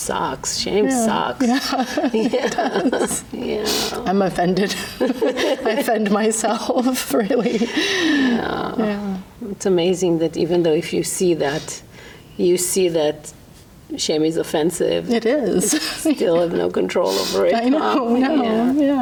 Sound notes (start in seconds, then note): 1.4 laughs; 4.6 therapist laughs; 4.6 laughs